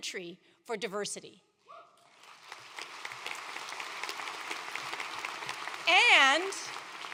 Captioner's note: applause